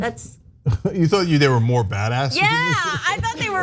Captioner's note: laugh